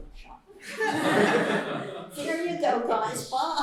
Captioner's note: laughter